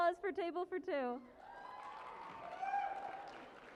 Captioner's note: cheering and applause